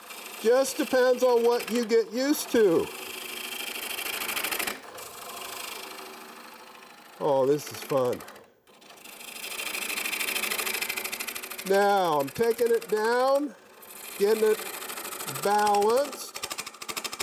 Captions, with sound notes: It just depends on what you get used to. (chisel scrapes) Oh, this is fun. (chisel scrapes) Now, I'm taking it down, getting it balanced.